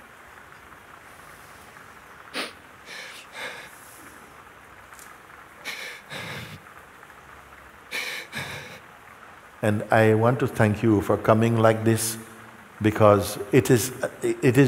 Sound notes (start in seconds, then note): none